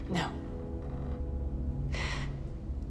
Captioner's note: inhales sharply